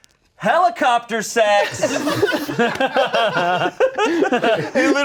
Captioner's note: everyone laughing